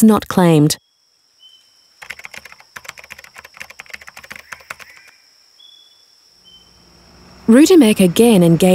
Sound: keyboard tapping

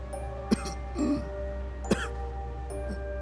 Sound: coughs

